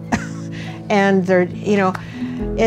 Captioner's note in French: rires